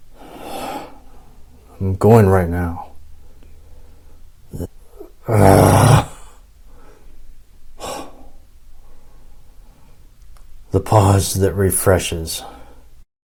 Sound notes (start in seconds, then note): 0.1 breathing heavily; 4.9 groaning; 7.7 inhales